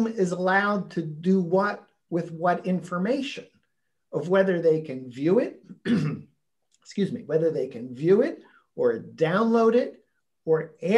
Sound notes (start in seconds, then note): 4.1 clears throat